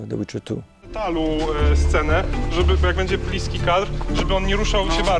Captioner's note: speaking Polish